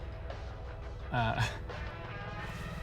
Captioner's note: chuckles